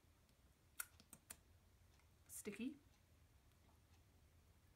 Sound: licks finger loudly

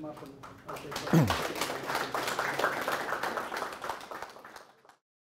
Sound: audience clapping

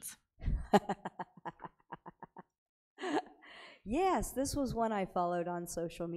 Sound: chuckling

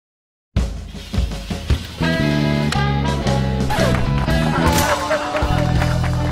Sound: applause

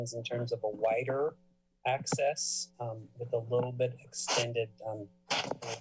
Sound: sneeze

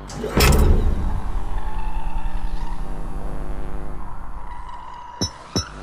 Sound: light buzzes as bass and screeches continue

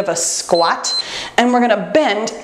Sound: timer beeps

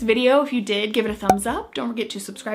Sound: bubble pops

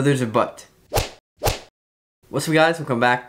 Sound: whiplash sound

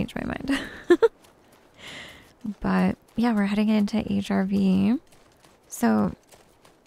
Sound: giggles

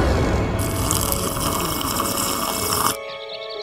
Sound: blender whirring; slurping

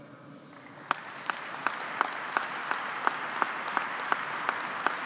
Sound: applause

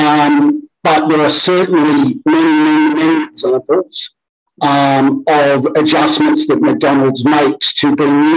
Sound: audio distorted

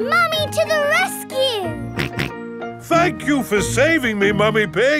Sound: snorting

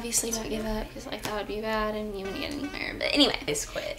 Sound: whispers

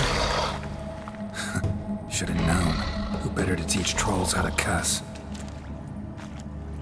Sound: scoffs

